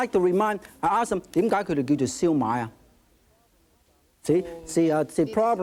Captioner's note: speaking in foreign language